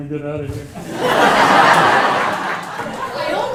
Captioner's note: laughter